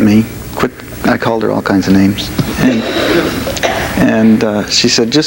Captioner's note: audience laughs